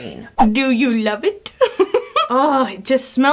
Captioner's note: giggles